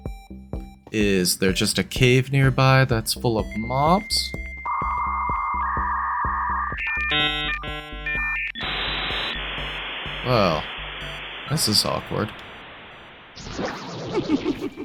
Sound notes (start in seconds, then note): 4.9 dial-up sounds